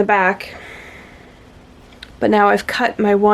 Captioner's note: audible exasperation